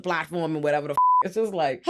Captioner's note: beep